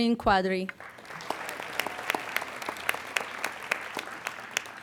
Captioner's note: applauding